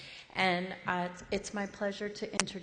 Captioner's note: none